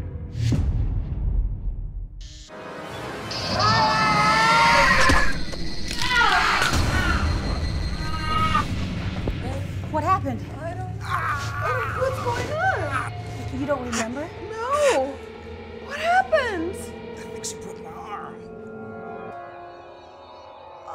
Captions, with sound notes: [ SCREAMS ] AGH! [ MOANING ] WHAT HAPPENED? I DON'T KNOW. WHAT'S GOING ON? YOU DON'T REMEMBER? NO! WHAT HAPPENED?! I THINK SHE BROKE MY ARM.